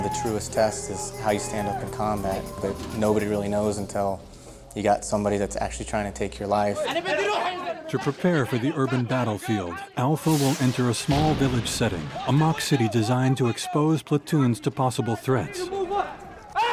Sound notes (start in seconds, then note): 8.1 voiceover